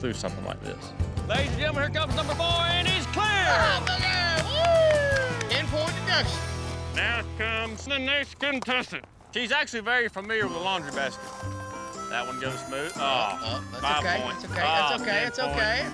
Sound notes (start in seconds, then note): 2.9 clapping, cheering